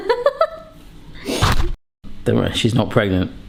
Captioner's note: laughs; camera thuds